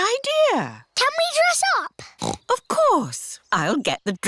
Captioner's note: snorts